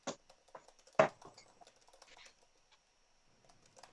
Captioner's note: dart ticks